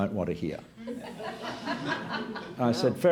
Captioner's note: laughter